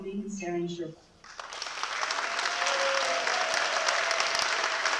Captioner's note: applause